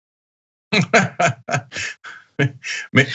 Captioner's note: laugh